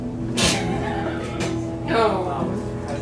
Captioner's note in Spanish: Charla de fondo; Risas